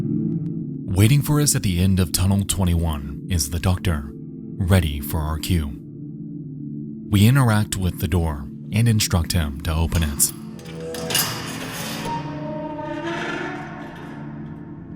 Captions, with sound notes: Waiting for us at the end of tunnel 21 is the Doctor, ready for our cue. We interact with the door, and instruct him to open it. (door creaks)